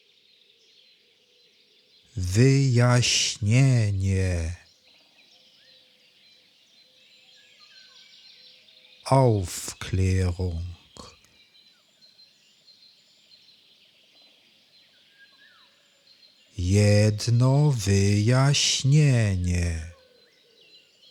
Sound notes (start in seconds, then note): 11.4 german